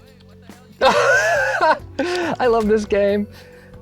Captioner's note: laughs